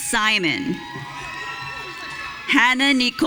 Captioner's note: audience cheering